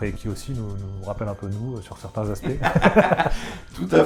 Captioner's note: laughs